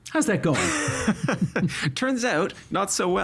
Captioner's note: laughing